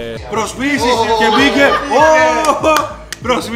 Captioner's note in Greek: πανηγυρισμοί